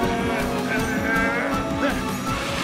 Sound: Launchpad straining

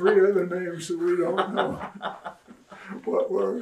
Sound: laughter

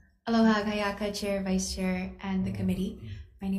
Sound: speaking Hawaiian

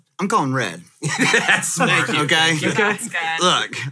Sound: laughs

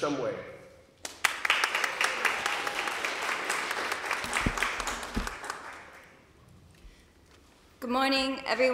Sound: applause

